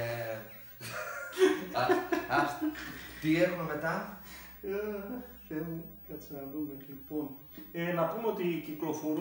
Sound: both Laughing

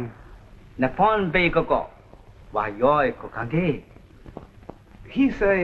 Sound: speaking japanese

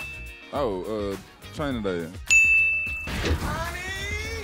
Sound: correct bing sounds; correct bing sounds

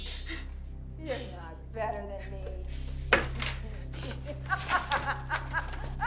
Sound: laughs

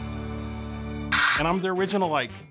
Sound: tv static

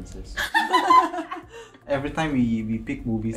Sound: girls laugh

